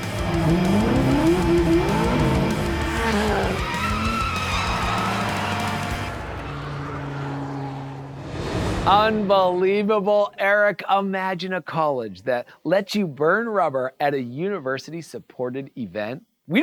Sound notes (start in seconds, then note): 0.0 energetic music; 0.0 car engine revving; 3.0 people cheering; 3.7 tires screeching